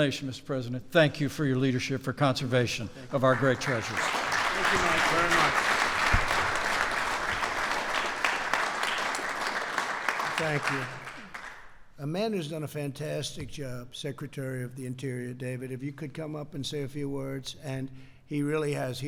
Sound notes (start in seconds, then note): 3.1 applause